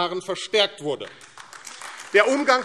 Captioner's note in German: Beifall AfD